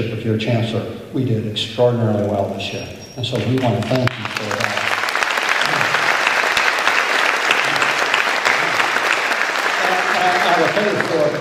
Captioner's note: applause